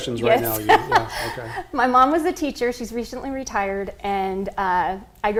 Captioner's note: laughs